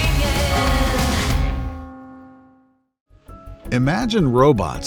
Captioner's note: bell chimes